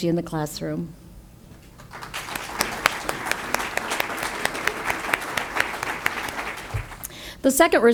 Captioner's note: audience applause